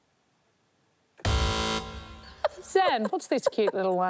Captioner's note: buzz!